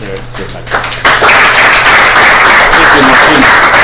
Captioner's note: applause